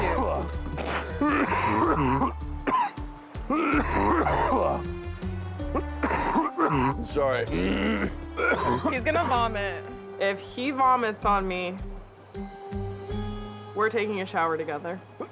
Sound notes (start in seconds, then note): 0.7 coughing; 5.7 clears throat; 7.4 coughs; 15.0 coughs